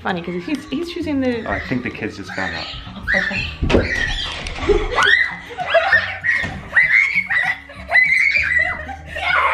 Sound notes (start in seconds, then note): 5.1 squealing